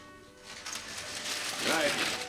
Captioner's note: gate rattling